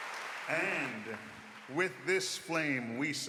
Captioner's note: applause